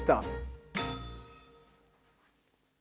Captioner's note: bell rings